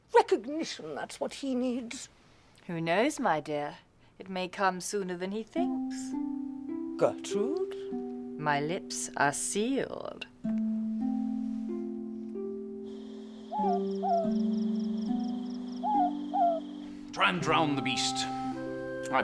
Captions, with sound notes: Recognition, that's what he needs. - Who knows my dear, it may come sooner than he thinks. - Gertrude? - My lips are sealed. (soft piano music) (owl hooting) - Try and drown the beast.